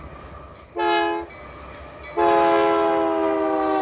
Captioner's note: train chugging